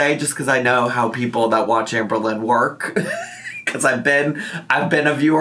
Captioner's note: laughs